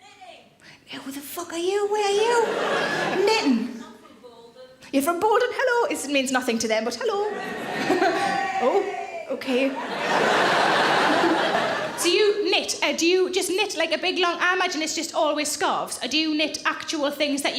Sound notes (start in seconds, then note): 7.2 audience laughs; 7.4 audience cheers; 9.7 audience laughs